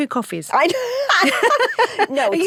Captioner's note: both laugh